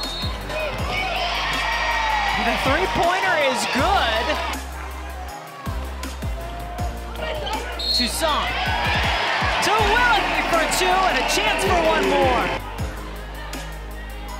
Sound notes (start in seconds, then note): 1.1 crowd cheering